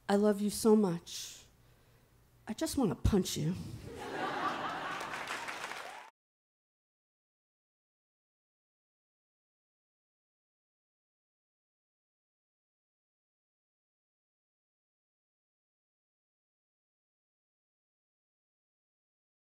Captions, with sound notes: I love you so much I just want to punch you. (audience laughing) (audience applauds)